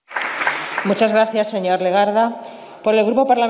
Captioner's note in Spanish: Aplausos